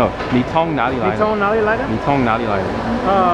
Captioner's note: mandarin